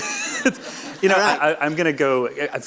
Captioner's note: audience laughs